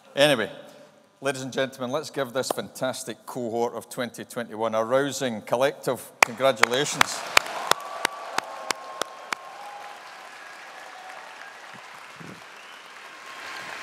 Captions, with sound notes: Anyway, ladies and gentlemen, let's give this fantastic cohort of 2021 a rousing, collective congratulations. (AUDIENCE APPLAUDING) (AUDIENCE CHEERING)